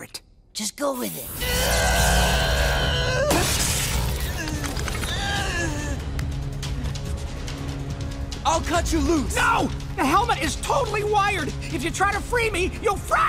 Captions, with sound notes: Just go with it. [groaning] I'll cut you loose. No! The helmet is totally wired. If you try to free me, you'll fry me.